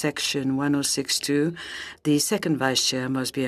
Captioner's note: speaking French